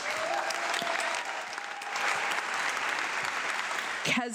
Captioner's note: audience clapping